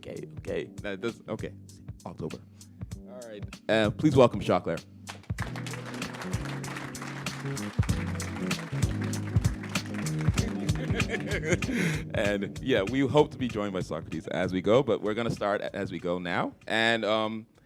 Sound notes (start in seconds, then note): 7.3 applause; 10.4 laughter